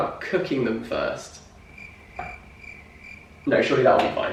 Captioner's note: cricket Noises